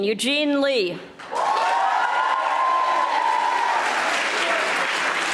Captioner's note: audience applauding